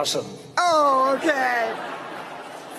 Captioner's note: laughter